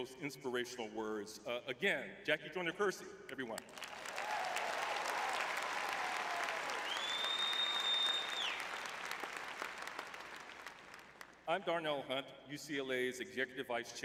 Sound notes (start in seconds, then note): 5.5 cheering; 8.1 applause